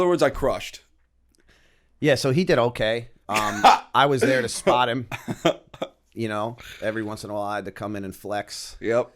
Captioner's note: laughter